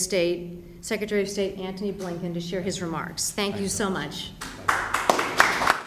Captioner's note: applause